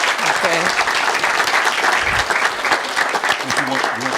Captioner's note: applause